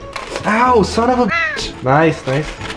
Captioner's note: bird noise